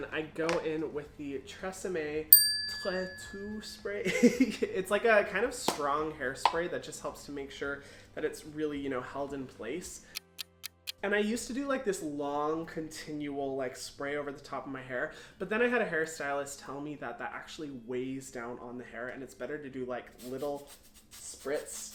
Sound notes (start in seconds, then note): 4.0 chuckles; 10.2 clock ticking; 21.7 spritzing